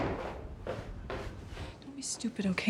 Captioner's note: footsteps clomping